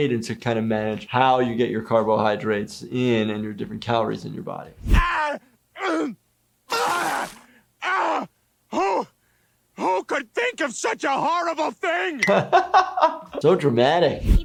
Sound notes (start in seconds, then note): 4.9 yelling; 6.7 vomiting; 6.7 gasping; 12.2 laughing